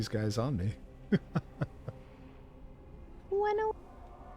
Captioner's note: laughs